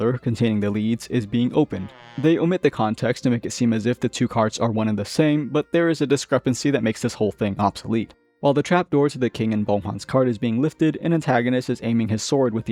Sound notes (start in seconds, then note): 1.7 squeak